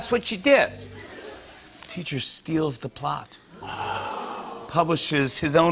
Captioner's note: audience "Oohs"